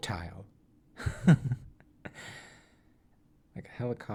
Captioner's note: chuckles